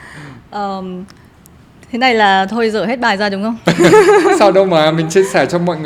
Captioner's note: laugh